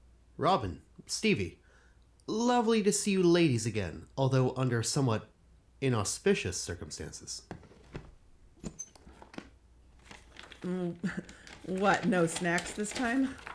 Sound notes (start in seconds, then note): 7.8 briefcase opens, papers shuffle